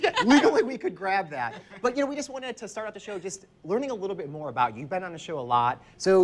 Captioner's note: laughs